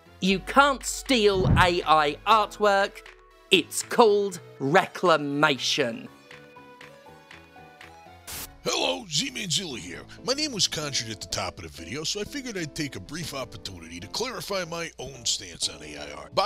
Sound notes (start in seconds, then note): 6.7 static